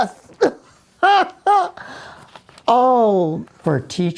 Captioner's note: laughs